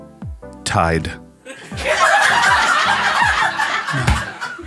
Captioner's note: laughing